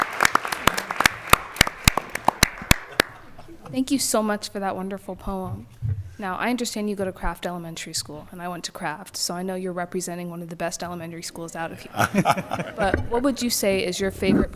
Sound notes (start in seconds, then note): 2.6 applause